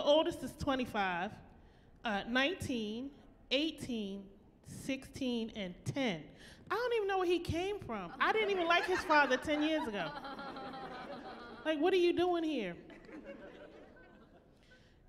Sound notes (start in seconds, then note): 8.2 laughing